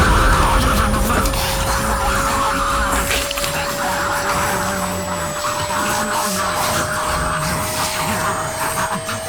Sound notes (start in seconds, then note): 0.3 mice squeaking; 4.0 snarling loudly